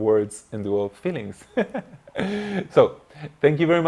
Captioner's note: laughing